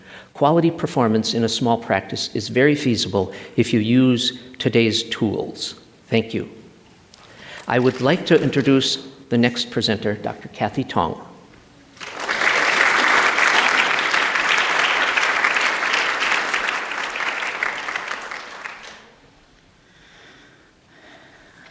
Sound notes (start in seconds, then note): 7.4 applause; 11.9 applause